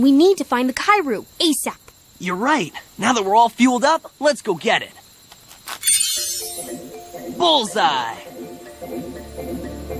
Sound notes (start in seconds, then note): 5.5 creak